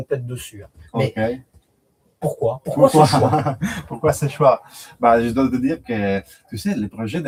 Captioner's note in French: rires